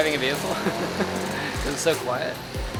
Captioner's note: laughing